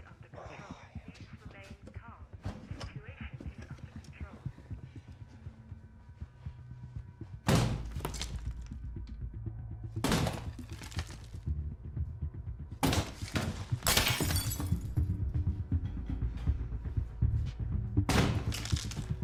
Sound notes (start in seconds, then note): 8.9 intercom; 13.6 very loud banging; 18.1 wall smashing